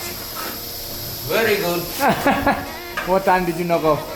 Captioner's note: laughs